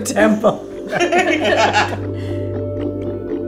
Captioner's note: all laughing; theme music